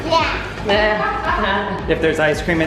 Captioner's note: laughing